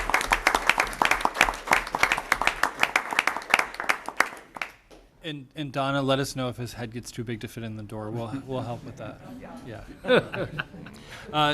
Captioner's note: applause